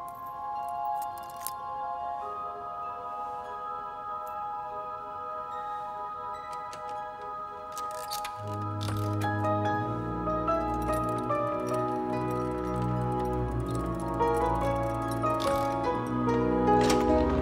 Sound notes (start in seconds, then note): 8.3 turning and clicking; 17.2 door squeaks open